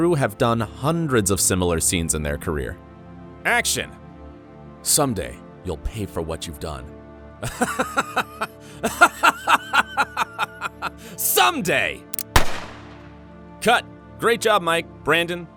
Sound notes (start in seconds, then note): 7.4 laughing; 12.1 gun firing